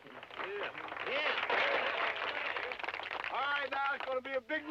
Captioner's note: crowd clapping